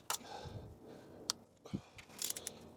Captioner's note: click